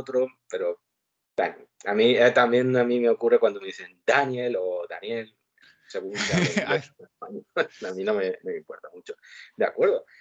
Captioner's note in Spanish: ríe